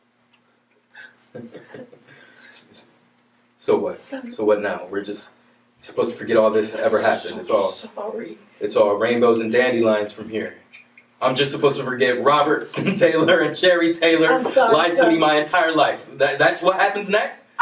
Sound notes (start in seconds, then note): 1.4 laugh